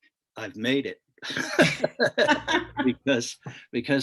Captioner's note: both laugh